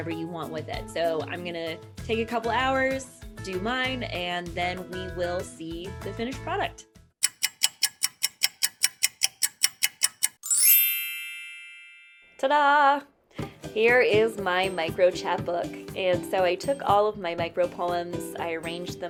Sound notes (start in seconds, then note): 7.2 clock ticking; 10.4 chimes